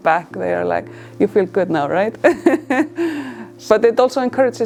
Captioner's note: laughs